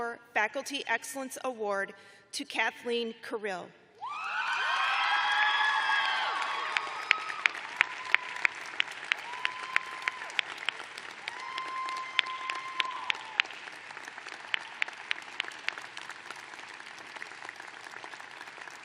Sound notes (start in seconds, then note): 0.8 cheering